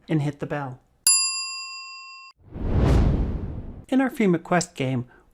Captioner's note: air whooshing; bell ringing